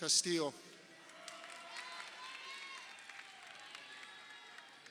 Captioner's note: crowd cheering